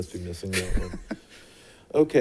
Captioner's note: chuckling